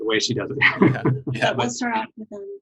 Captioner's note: giggles